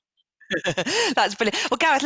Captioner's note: laughter